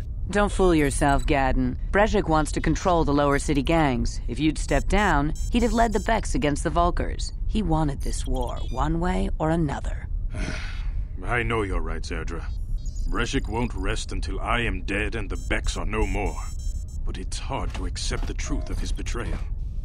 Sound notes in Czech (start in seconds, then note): 10.3 Povzdych